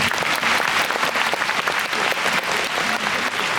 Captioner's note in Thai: ปรบมือ